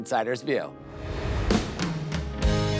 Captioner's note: upbeat music; air whooshes